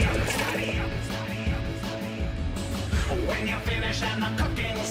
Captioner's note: echoes